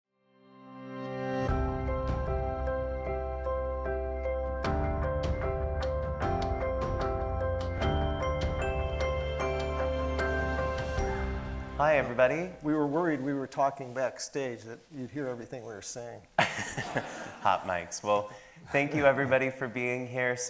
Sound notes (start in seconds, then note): 0.0 bright music; 16.4 everybody laughing; 19.1 chuckles